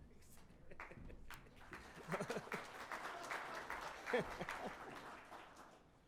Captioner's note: chuckles; crowd applauding